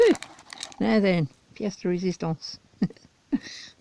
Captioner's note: giggles